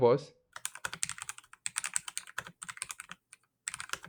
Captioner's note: keyboard clacking